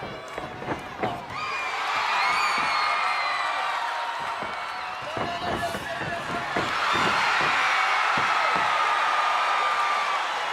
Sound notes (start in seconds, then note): 1.5 audience cheering; 6.8 audience cheering